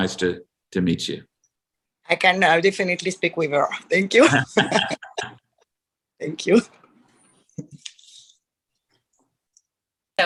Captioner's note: laughter